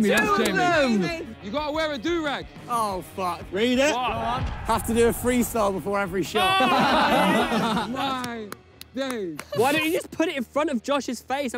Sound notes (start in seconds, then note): 6.2 players laugh